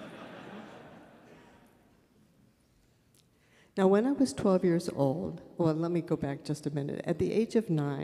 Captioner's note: laughter